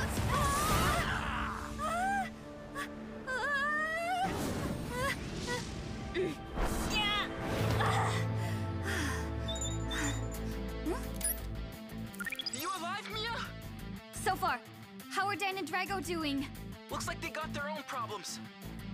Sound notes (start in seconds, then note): 0.2 shouting; 2.7 gasping; 6.4 grunting; 8.2 panting; 9.5 device chiming